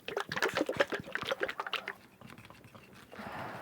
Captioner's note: liquid sloshing